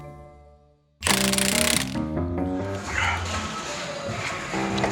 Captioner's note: driller whirling